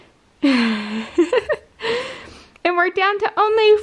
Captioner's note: laughs